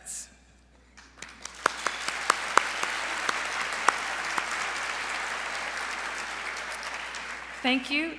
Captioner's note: applause